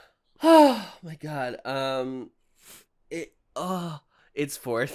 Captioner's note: sighing